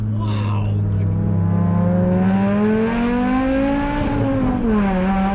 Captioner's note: car engine roaring